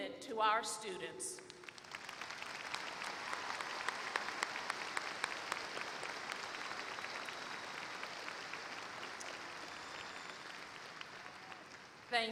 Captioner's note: applause